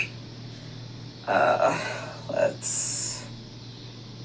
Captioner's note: groans